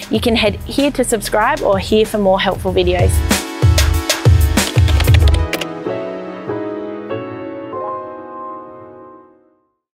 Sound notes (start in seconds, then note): 3.7 upbeat music; 4.6 keyboard clicking